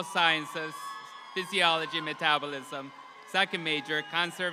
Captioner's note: audience applauds